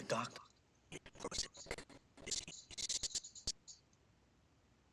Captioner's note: audio skipping